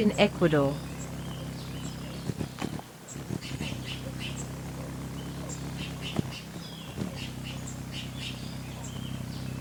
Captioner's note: birds chirping; bird wings flapping